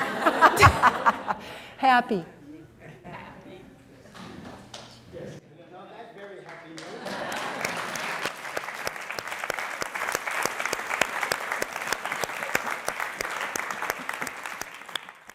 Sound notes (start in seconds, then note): 6.4 applause